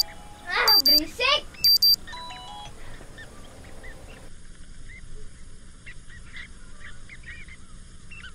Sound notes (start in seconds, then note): 1.6 alarm ringing; 1.6 alarm stop